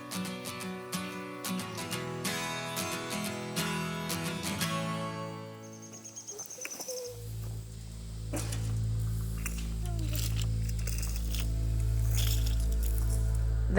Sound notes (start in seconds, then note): 5.2 baby cooing; 5.5 bird chirping; 11.3 shuffling sounds